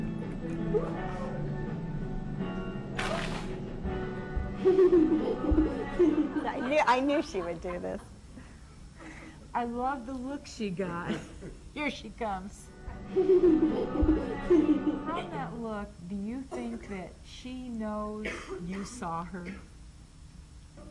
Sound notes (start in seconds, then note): 13.1 is giggling